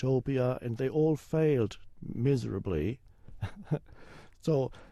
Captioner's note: chuckles